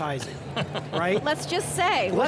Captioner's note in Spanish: se ríe